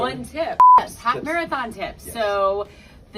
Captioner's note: beeps